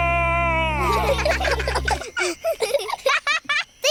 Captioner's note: children giggle